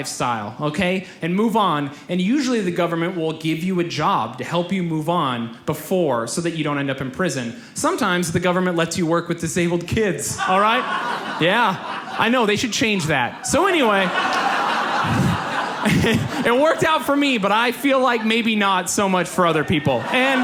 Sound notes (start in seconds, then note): 14.4 audience laughs; 20.2 audience laughs